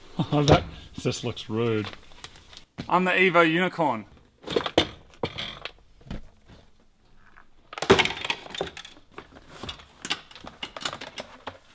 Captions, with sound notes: [chuckles] Oh that just looks rude! I'm the EVO unicorn! [trim rattles] [clatters] [trim rattles]